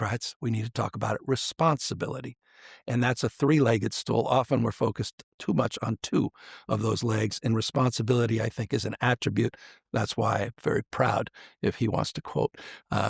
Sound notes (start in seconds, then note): none